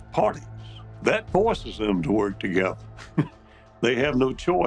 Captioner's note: chuckles